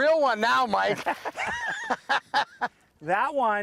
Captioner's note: laughter